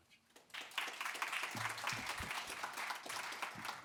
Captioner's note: audience clapping